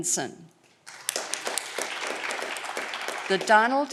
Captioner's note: audience clapping